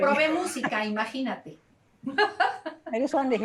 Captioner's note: laughter